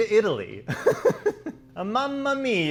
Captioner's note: laughing